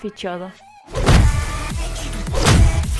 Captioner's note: epic sound effects